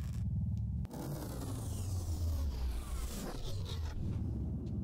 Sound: force field powers down

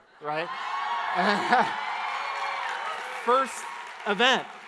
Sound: audience applauds

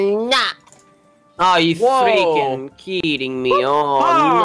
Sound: in a bad accent

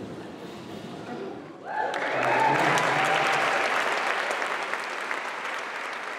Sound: cheering

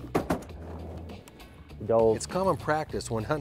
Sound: gunshots

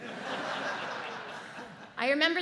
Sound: audience laughs

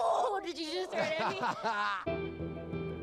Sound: laughing; dramatic music

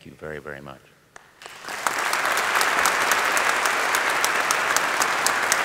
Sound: audience applauding

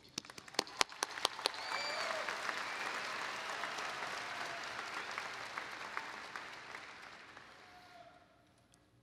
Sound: applause

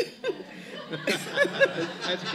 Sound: laughter

